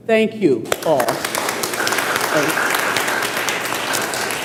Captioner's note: applause